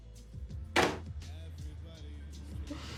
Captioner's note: slams phone down